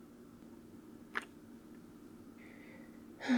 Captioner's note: kiss